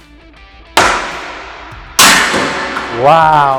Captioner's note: ball bangs on deck